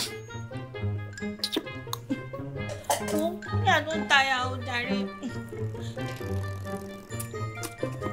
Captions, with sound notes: [Kisses lips] I'm tired please